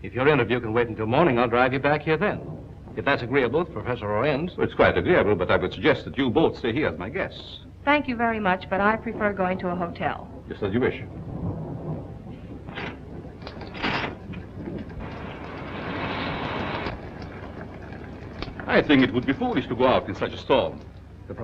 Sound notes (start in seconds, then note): 11.2 thunder rumbling